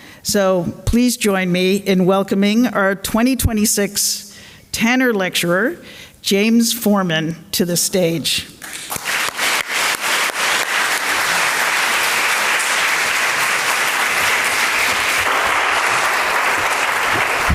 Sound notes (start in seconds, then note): 8.6 applause